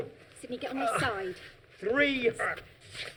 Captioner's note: groaning